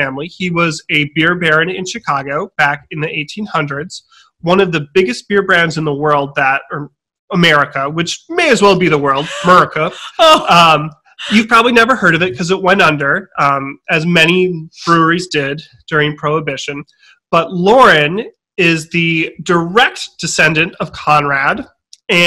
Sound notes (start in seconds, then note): 10.4 gasping